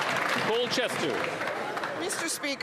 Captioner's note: applause